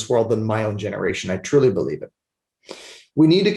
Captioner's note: sniffles